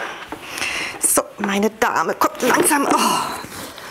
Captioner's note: she groans